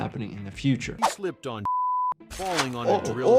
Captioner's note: beep